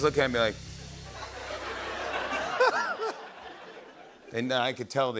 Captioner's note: laughter